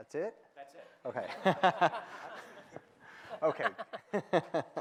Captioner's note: laughter